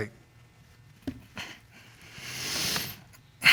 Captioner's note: breathes deeply